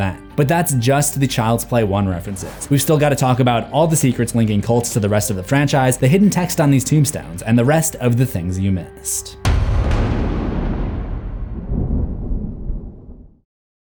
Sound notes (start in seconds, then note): 9.4 impact